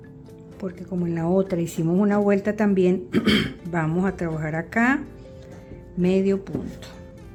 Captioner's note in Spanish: carraspeo